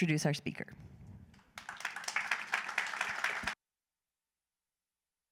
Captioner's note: applause